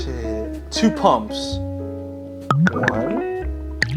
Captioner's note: glugging